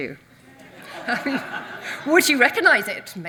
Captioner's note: audience laughs